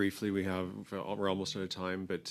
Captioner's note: speaking French